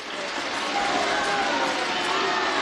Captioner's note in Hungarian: taps, ováció